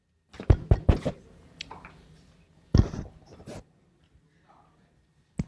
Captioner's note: tapping on microphone